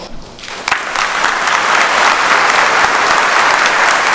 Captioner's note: applause